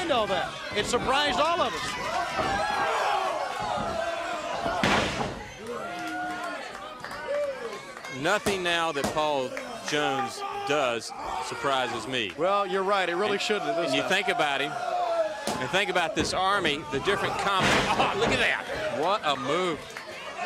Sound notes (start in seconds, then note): 10.9 crowd chatter